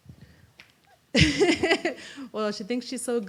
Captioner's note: laughs